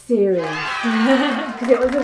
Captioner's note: cheering